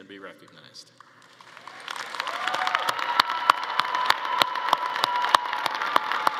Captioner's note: attendees applauding and cheering